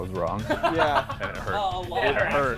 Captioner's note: laughter